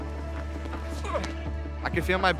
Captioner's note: grunts